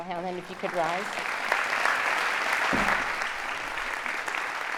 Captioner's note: audience applauding